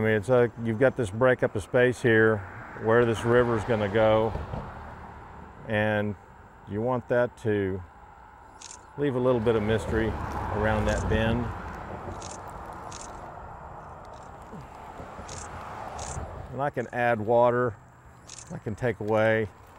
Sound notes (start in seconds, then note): 12.1 camera clicking